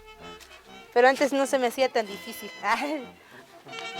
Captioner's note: she laughs